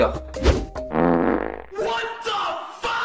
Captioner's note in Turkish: osuruk ses effekti